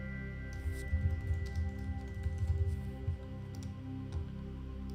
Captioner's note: keyboard faintly clacking